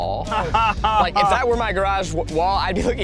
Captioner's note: laughing